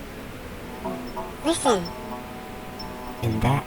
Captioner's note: the gentle thumping of a neon sign shorting out; the bee swarm quiets; small buzzing voice; The Buzzing voices